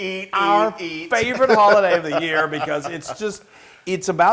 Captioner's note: laugh